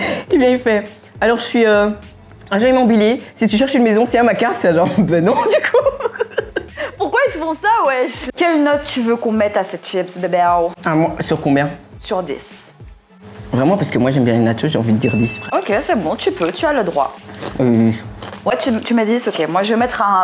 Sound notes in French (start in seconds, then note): 5.3 Laughing